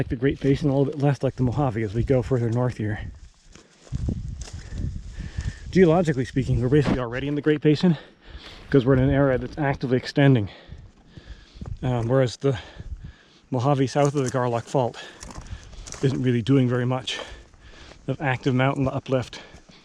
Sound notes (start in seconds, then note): 6.7 air whooshing